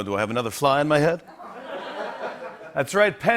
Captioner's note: laughter